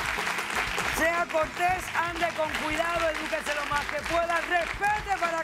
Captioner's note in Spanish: Aplausos